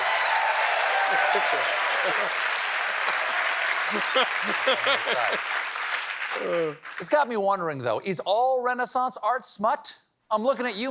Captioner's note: applause